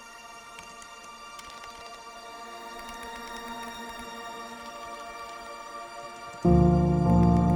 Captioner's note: keystrokes